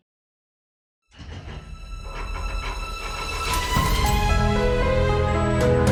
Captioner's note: mysterious rumbling; metallic clanging